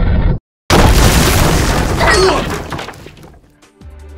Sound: stone sliding down; earthquake

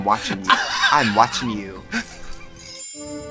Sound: laughs

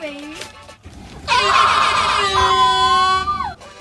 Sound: airhorns

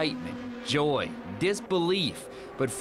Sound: / :nats of cars

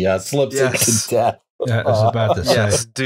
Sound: laughter; laughter

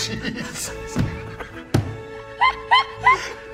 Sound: laughter

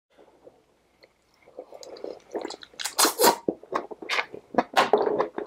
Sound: slurping sounds

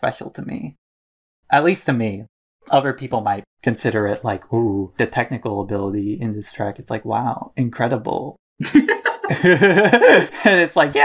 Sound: both laugh

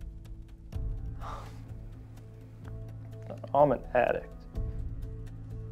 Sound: sighs

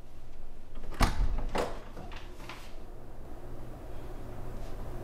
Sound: door unlatching

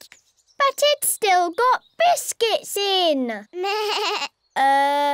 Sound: bleats

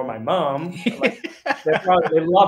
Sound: laughing

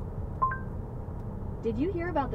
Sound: Google Assistant beeps

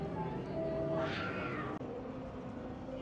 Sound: wild cat noises

